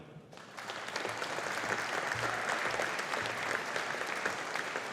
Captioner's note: audience applauding